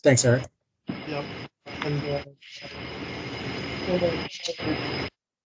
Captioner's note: static blasts